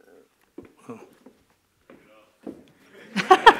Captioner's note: laughter